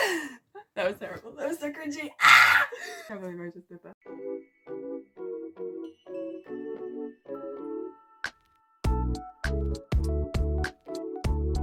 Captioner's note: screams